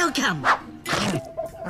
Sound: chomp

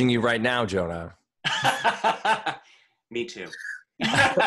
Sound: laughter

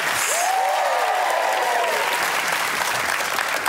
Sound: applause

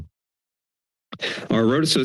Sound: inhales

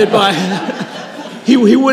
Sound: audience laughing

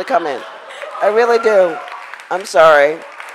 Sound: crowd applauds

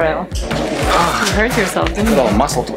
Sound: groans

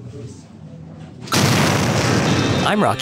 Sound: explosion sounds

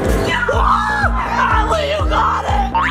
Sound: cheering

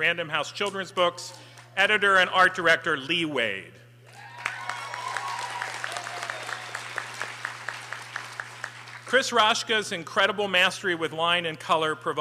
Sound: applause

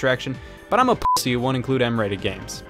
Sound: beep

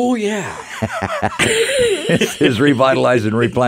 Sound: both laugh

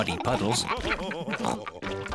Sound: all laughing

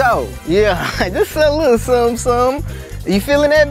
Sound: laugh

